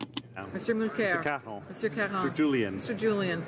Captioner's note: speaking French